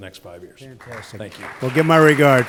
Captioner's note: applause